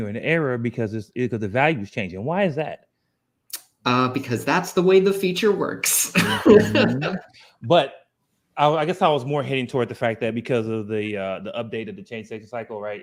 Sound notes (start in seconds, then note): 6.2 laughs